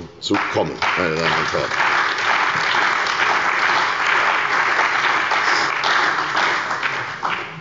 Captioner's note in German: Beifall bei der CDU und dem BÜNDNIS 90/DIE GRÜNEN